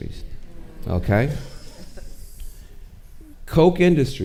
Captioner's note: audience murmuring